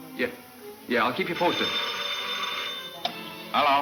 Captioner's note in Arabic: رنين الهاتف